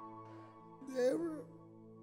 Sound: with crying

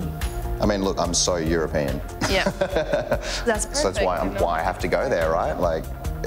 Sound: laughs

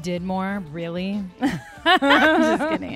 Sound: laugh

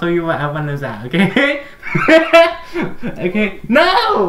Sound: laughs

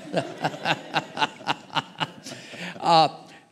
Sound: laughter

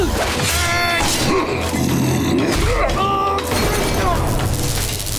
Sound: grunting

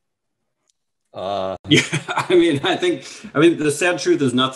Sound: laughing

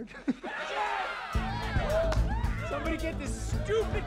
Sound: people laughing; people cheering

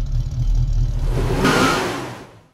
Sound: engine Revving; tires Squeeling

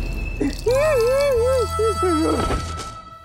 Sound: wailing

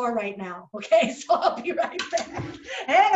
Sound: laughing

